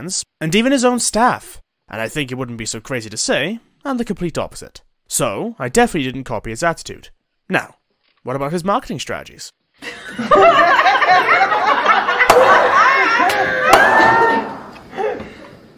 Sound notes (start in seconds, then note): 9.8 laughing; 12.2 gavel Sound